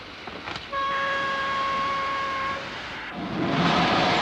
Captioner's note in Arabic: صافرة القطار; صوت محرك القطار